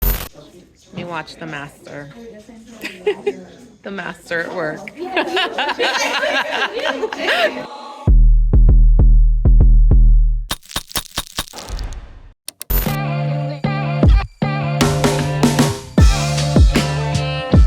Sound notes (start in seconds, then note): 2.8 laughing; 4.9 laughter; 12.9 upbeat music